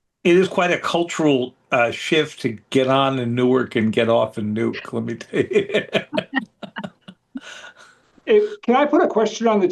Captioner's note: laughter